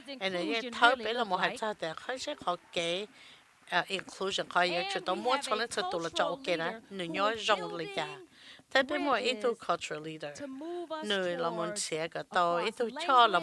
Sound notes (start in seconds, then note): 5.6 cheers and applause